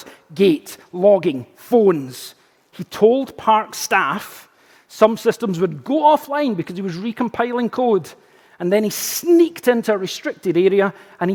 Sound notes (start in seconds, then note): none